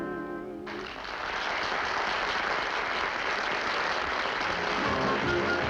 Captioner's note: applause